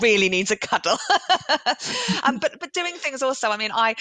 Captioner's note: laughs